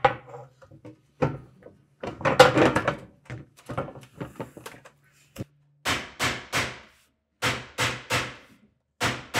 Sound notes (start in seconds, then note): 0.5 metal clanging; 6.1 mallet pounding